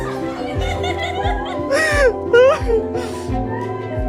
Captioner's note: laughing